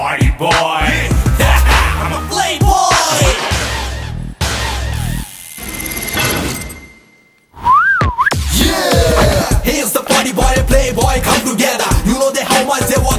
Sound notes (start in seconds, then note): 7.5 whistles